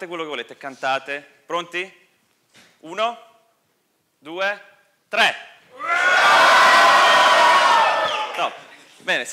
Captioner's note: audience howling